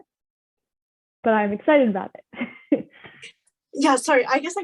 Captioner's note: chuckles